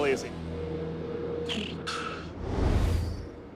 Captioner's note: blows raspberry